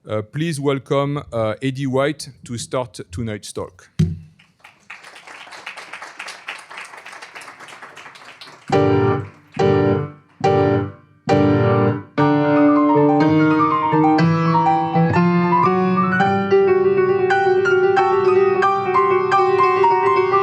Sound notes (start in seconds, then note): 4.4 applause